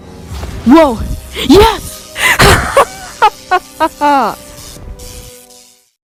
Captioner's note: evil Laughter